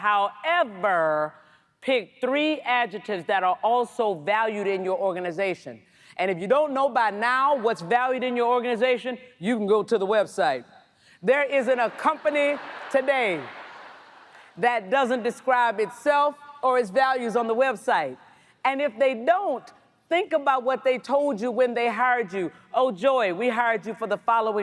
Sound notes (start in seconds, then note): 14.6 laughter